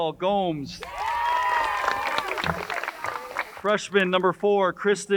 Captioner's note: crowd cheers and applauds